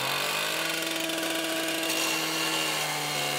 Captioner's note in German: Lautes Sägegeräusch